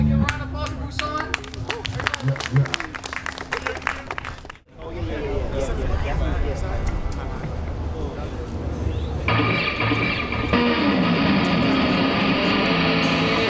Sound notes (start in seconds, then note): 1.0 audience applauds; 9.3 upbeat heavy metal music